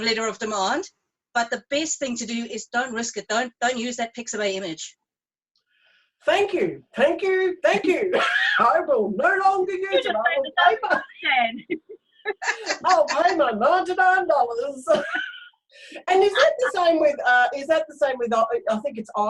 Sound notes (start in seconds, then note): 7.8 laughs; 9.9 both laughing